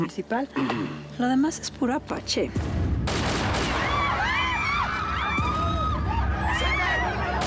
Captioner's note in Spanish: felipe carraspea; gritos